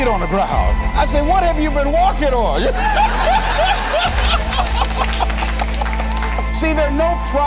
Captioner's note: chuckle - Applause